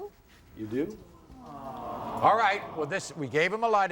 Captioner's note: audience awing